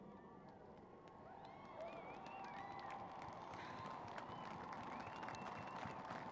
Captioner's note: applause